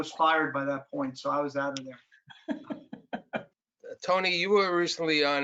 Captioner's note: laughs